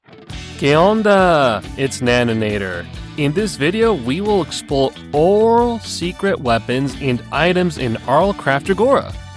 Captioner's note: Spanish